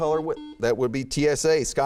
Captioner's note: beeping